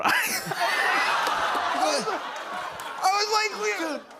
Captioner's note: laughter